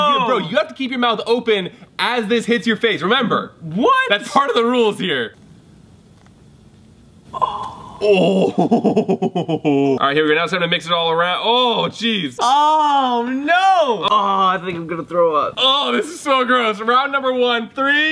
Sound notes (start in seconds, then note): 8.0 evil laugh